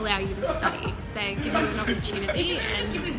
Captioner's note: people laughing talking